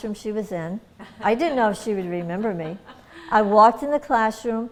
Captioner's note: laughter